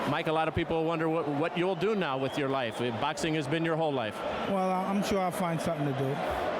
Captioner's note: applause